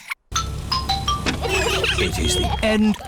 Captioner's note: trumpets; horns honking